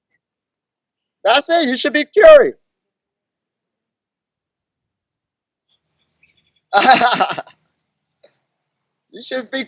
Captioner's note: laughs